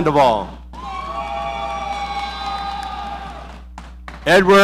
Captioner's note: audience cheering